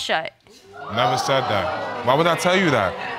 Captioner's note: audience exclaims